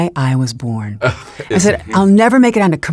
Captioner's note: laughs